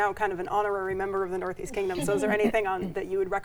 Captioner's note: chuckles